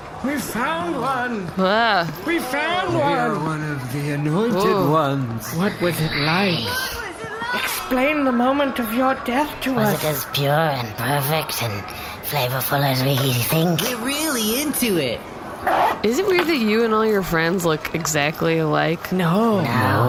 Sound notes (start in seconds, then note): 14.3 shouting